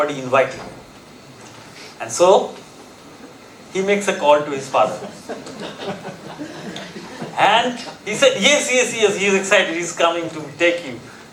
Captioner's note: audience chuckling